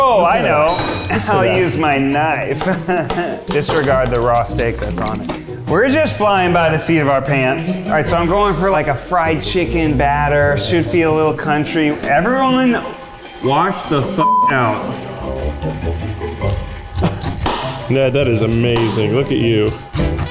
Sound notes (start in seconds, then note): 2.8 snickers